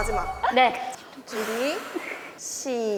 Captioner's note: deep breath